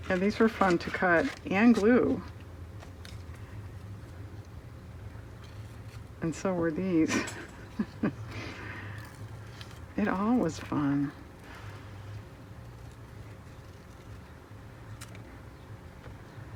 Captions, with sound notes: Yeah, these were fun to cut and glue. And so were these (laughs). It all was fun.